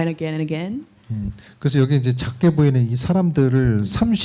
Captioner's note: speaking korean